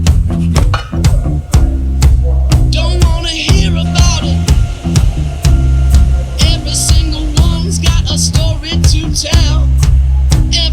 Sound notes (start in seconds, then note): 0.6 metal clangs